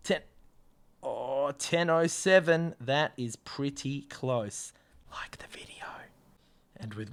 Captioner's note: whispers